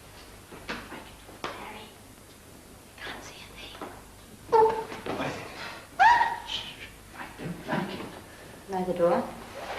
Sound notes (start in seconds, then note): 6.0 yell